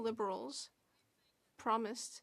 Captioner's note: speaking French